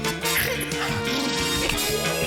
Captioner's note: blubbers lips; snorts; gasps